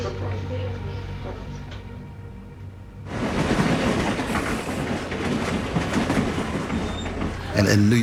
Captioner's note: chatter